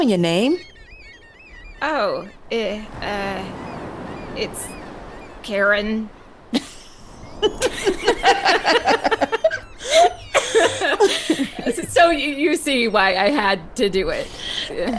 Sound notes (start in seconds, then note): 7.3 they laugh